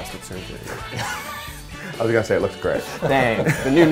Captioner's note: laughs